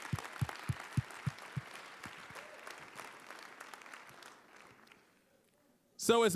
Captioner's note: applause, cheering; applause